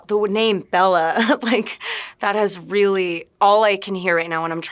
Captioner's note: chuckling